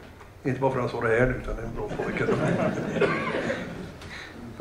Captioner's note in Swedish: Skratt